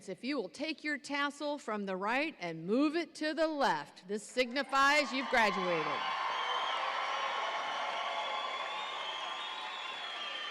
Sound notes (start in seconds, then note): 4.9 audience cheering